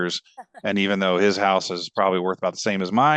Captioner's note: group laughs